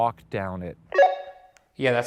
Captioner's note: radio beeps